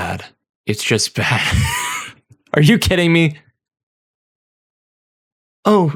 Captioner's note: laughter